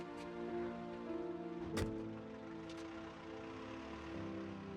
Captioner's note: car door closes